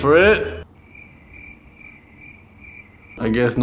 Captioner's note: crickets chirping